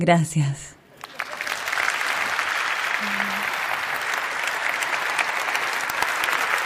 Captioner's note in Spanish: Aplausos